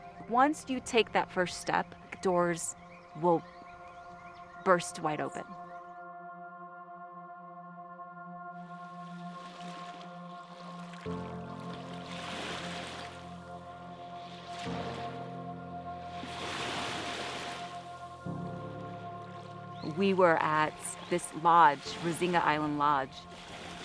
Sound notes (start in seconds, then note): 6.2 gentle music; 10.7 waves lapping